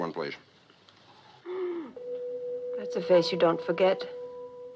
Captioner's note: gasps